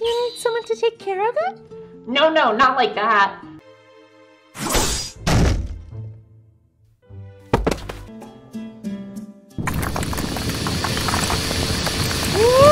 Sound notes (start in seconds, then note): 4.6 slash!; 5.2 broken door falls off; 7.5 thud; 9.6 the ground shakes as a drill emerges through it